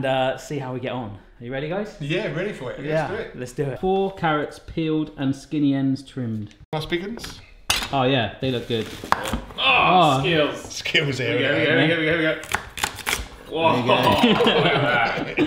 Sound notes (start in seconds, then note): 9.6 satisfied groan; 15.2 group laughs